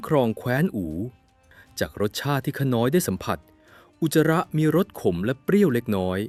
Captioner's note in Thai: เสียงสูดหายใจ